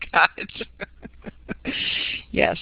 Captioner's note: laughter